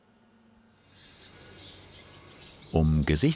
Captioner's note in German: Vogelzwitschern